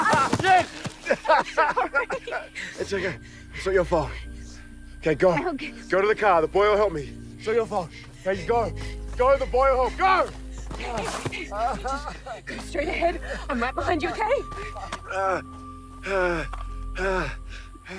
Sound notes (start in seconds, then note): 16.0 groaning